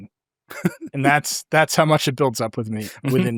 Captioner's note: laughs